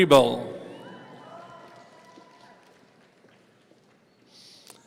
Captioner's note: audience cheering